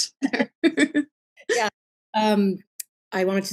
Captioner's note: laughs